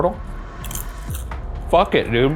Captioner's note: popcorn crunching